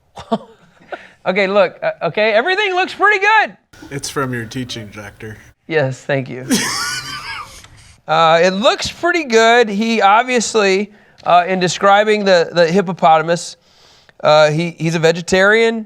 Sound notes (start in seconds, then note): 4.0 sarcastically; 6.4 laughs